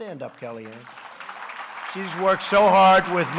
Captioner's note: applause